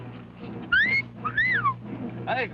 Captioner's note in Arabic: صفارة الشرطة